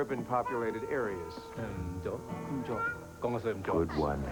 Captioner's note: speaking Cantonese